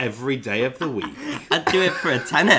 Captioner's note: both laughing